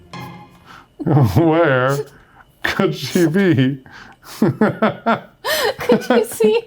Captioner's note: laughs